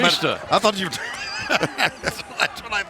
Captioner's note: laughs